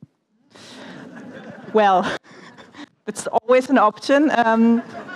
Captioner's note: laughter